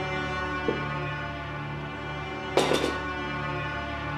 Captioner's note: knife drops